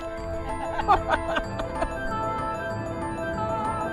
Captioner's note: both laughing; upbeat music